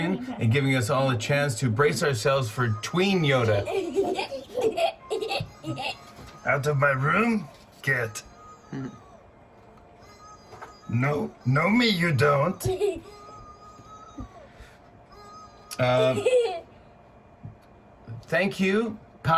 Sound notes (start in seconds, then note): 3.5 laughter; 8.6 chuckles; 12.8 laughs